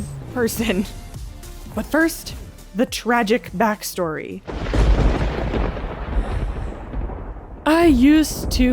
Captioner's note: thunderclap